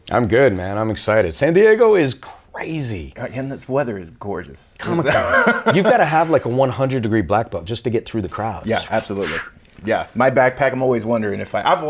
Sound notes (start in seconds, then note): 4.8 laughter; 8.9 blows